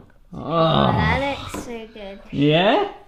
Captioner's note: groaning